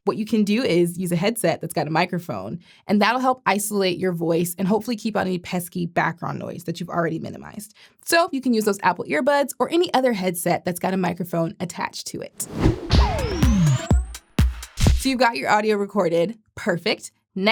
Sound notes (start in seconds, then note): 12.4 transition whooshing; 12.4 upbeat music